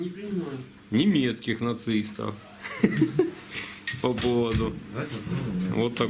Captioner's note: se ríe